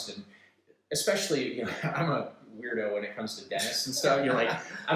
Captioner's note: laughs